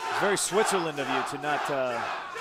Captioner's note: crowd cheering